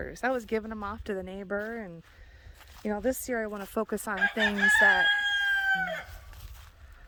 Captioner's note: rooster crowing